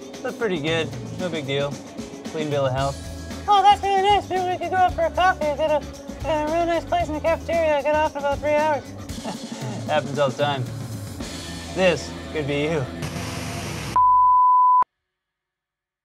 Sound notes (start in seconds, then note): 3.6 responds in a high voice; 13.0 Static; 14.0 test pattern sound effect